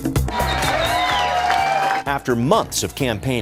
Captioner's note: people cheering